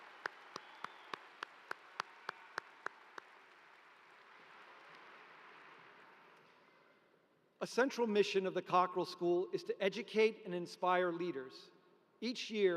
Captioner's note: applause